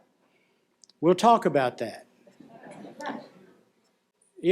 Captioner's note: laughter